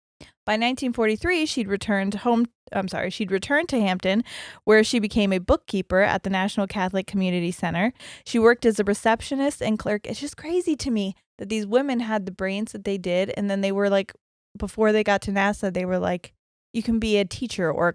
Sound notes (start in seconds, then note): none